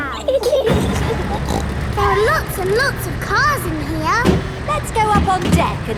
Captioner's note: giggling; snorts